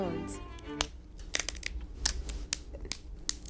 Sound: snapping

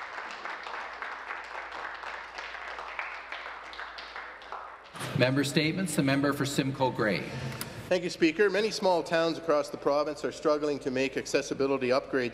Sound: applause

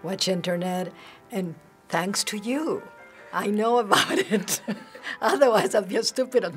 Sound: chuckling

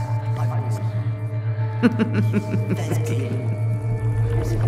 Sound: evil Laughing

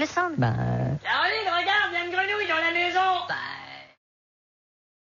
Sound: croaking

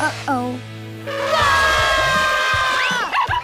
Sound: screaming

